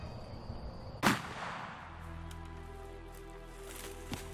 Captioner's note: shot fires